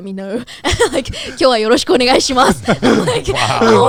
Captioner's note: speaking in Japanese